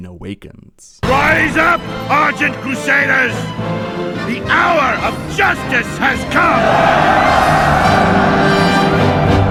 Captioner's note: cheers